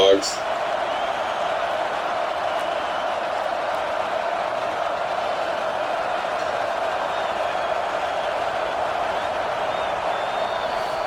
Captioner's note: crowd Noises